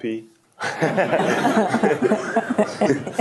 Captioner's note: laughter